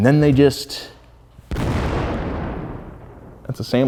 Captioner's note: engine exploding into car loudly